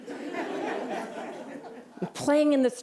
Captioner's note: laughter